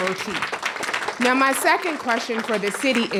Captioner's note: applause